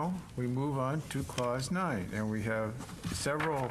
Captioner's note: speaking in French